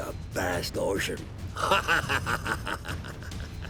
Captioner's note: laughing